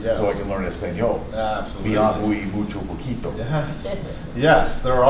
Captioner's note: speaks in foreign language